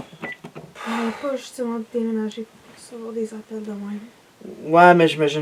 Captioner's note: tired